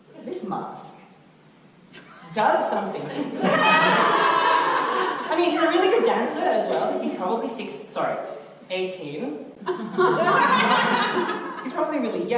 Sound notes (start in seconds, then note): 3.1 audience laughter